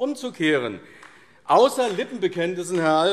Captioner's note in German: Beifall AfD